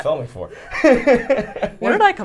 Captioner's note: laughs